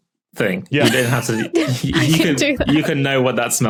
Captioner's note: group laughing